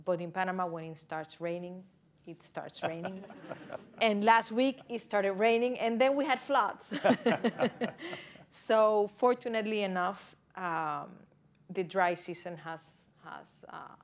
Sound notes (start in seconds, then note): 2.8 laughter; 6.9 laughs